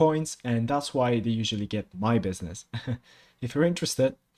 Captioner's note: laughs